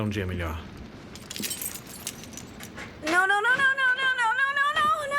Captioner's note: keys jingling